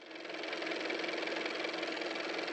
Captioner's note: car motor